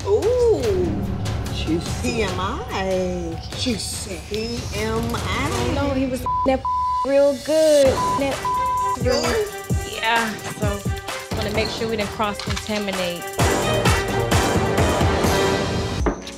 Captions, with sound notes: - Ooh, TMI. - Juicy. Juicy. - TMI. - And I know he was (beep) that (beep) real good, (beep) that (beep). - Yours? - Yes. Gonna make sure we didn't cross contaminate. (dramatic music)